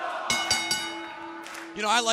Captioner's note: bell ringing